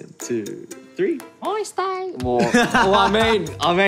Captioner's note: speaks korean high-pitched